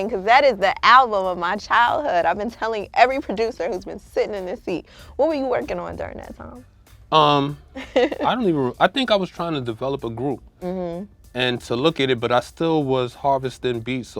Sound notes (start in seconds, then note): 7.8 laughs